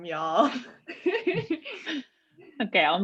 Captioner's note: laughing